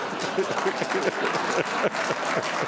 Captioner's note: audience laughs, applauds; chuckles